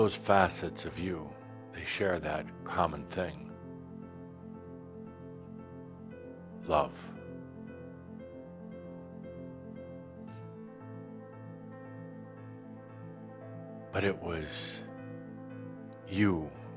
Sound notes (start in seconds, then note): none